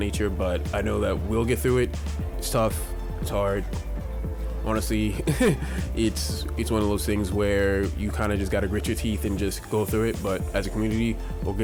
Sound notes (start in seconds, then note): 5.2 laughing